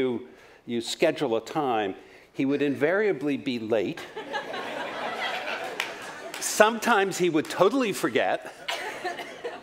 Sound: laughter

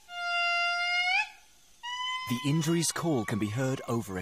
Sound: lemurs howling

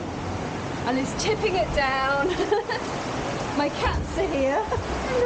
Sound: laughing

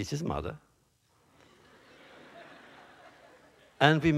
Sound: laughter

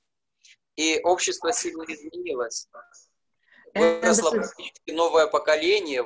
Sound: speaking foreign language

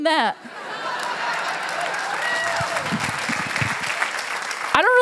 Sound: laughter

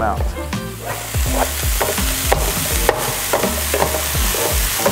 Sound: sizzling

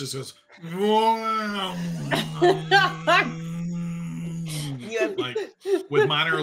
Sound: imitating dinosaur roaring

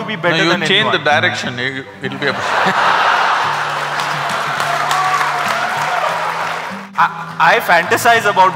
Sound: laughter/Applause

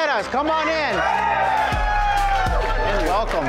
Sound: customers cheering

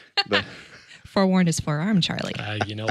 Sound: laughs

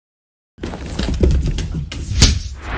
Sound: dog Running; whoosh Swoosh

